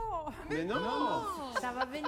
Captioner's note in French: en choeur